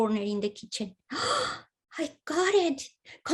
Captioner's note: gasps